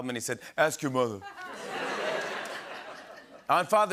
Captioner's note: changes accent; laughter and applause